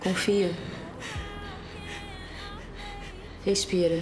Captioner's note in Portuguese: valentina respirando tensa